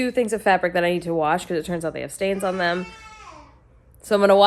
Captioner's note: background baby noises